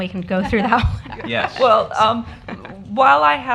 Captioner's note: laughter